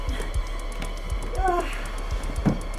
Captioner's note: Tina gasping; Sue groans